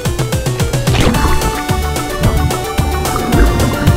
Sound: splashes

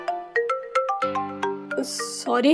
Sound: phone ringing

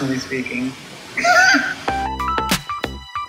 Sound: laughing; upbeat music

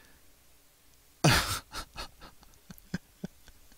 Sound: amazed laughter

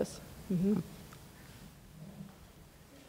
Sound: speaks quietly without mic

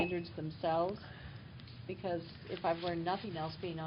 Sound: none

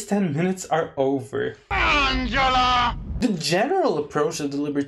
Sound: screaming in Italian

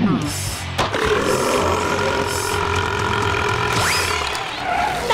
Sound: belching

